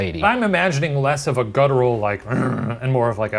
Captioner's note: growling; grunting